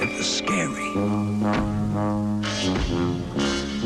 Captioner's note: heavy footsteps